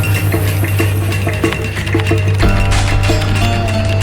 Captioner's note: keyboard clicking